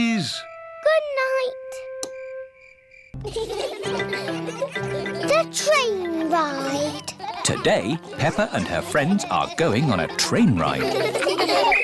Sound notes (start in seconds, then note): 3.2 laughter; 11.7 blows whistle